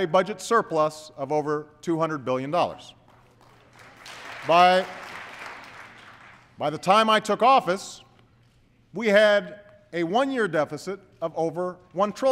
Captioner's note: applause